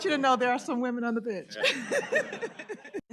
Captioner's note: laughter